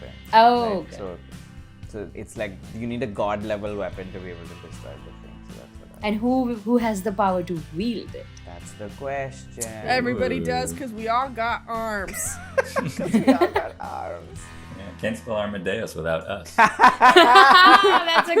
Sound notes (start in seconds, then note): 12.0 laughter; 16.5 laughter